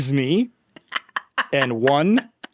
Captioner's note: laughing